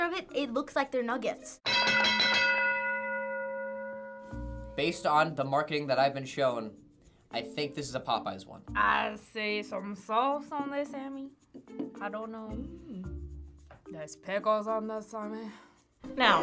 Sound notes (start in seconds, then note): 1.6 bell rings